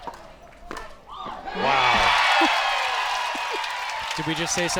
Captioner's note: crowd applauds